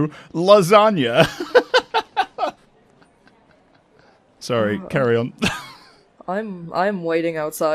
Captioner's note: laughs